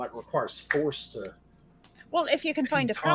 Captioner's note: palms slapping